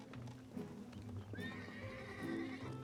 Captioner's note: horse neighs